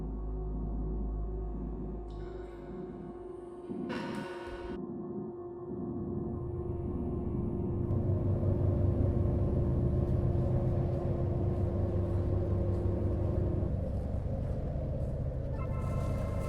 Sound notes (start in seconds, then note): 8.6 ominosa de la música electrónica; 8.6 viento